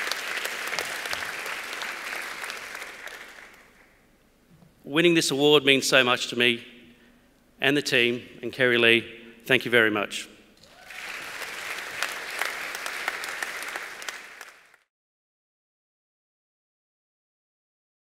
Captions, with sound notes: Winning this award means so much to me, and the team, and Kerrylee. Thank you very much. (APPLAUSE)